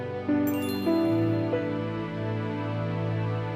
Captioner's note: twinkle